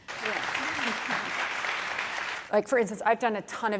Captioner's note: audience applauds